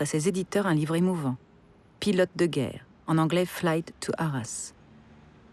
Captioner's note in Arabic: باللغة الإنجليزية